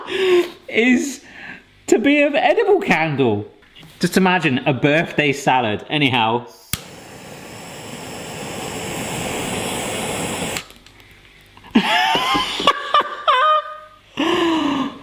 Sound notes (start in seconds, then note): 6.6 flame blowing; 11.7 laughing